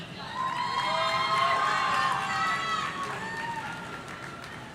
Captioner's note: audience cheering